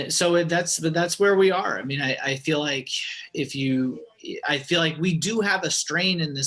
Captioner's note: sigh